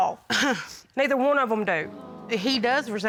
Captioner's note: scoffs